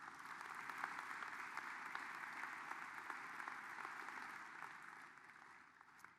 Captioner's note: applause